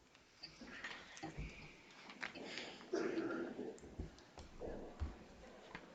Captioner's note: attendees chattering